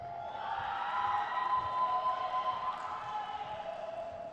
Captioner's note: crowd cheers